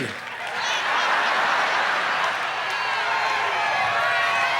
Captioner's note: audience laughs